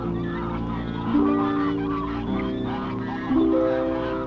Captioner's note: geese honking